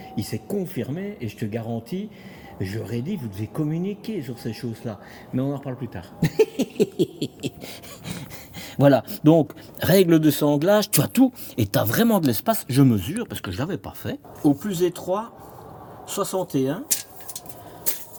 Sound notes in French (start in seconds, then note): 6.2 rires